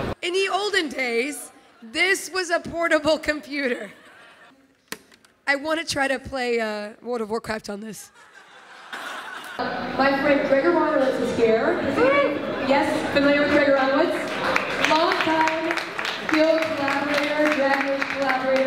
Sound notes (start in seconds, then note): 8.0 laughter